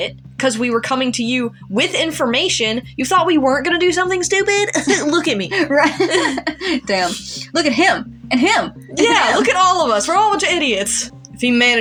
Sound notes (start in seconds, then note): 4.4 laugh; 4.9 scoff